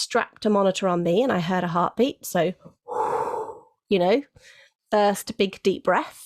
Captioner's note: exhales